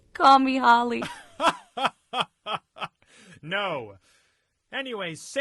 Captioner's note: giggles